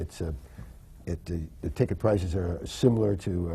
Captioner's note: none